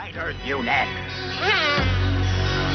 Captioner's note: buzzing